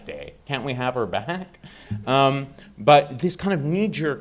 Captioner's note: audience chuckling